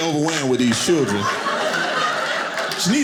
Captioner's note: audience laughing